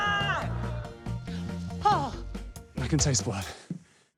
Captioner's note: yelling continues; gasps